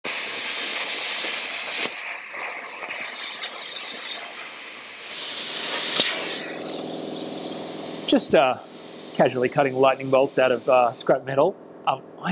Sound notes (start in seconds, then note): 0.2 sparks hissing